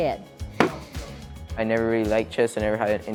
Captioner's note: chess piece slams